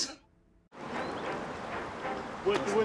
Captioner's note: birds chirp